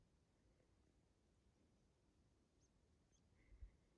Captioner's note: wind noises and birds tweeting in the distance